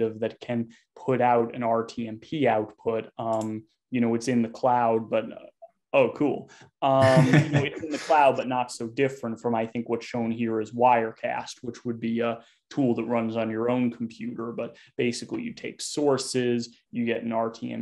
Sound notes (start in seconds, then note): 4.2 laughter